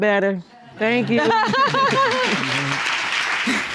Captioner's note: laughing; audience applauding